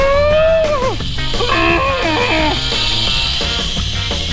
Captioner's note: muffled scream